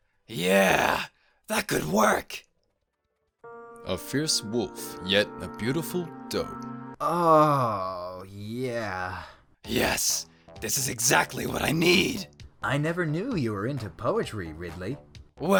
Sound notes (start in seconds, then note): 7.0 orgasm